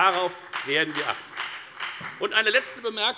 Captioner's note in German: Beifall bei der FDP